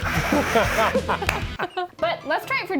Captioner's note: energetic music; laugh